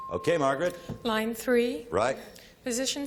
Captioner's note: ping